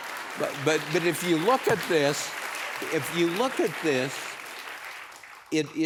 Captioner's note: applause